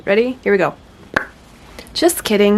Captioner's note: lips pop